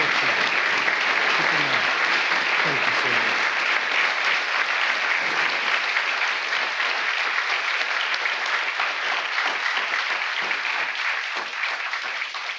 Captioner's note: applause